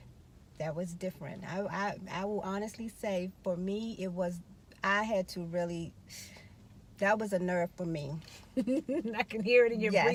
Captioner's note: laughing